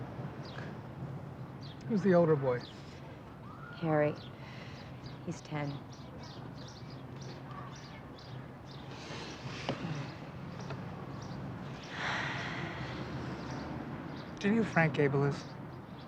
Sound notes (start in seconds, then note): 11.7 exhales